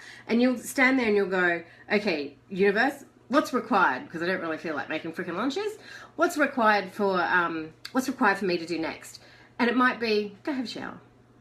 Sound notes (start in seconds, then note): none